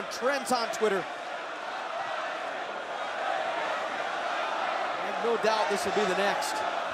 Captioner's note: crowd chatter